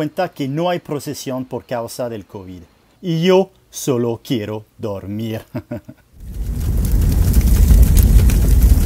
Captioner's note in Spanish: risa